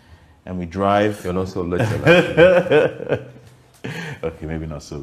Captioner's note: laughs